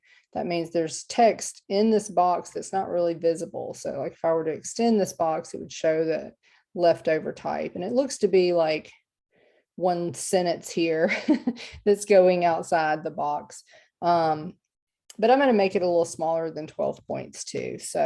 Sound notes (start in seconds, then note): 11.0 laughter